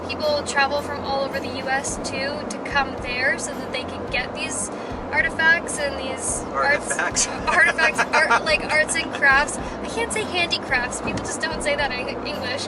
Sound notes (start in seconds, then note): 7.4 laughter